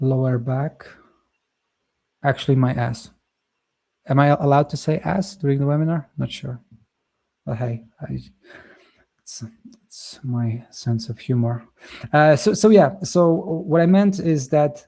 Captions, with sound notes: lower back. Actually, my ass. Am I allowed to say "ass" during the webinar? Not sure. But, hey, I... [chuckles] It's, it's my sense of humor. Uh, so, so yeah. So what I meant is that